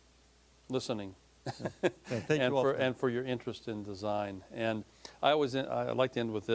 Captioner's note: laughing